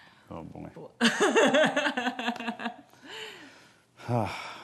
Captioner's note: laughing